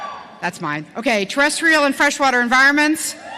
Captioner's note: cheering